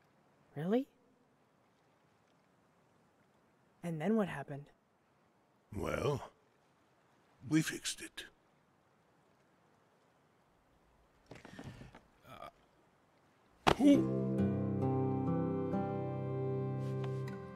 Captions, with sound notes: Really? And then what happened? Well, we fixed it. (MASSIMO GRUNTS)